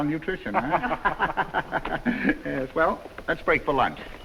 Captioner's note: all laughing